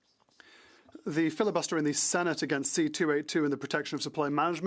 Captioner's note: speaking French